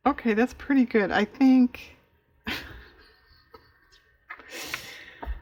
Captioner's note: laughs